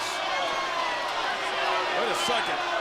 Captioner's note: crowd cheering